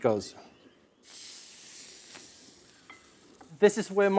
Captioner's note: meat sizzling